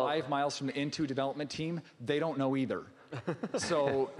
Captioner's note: laughing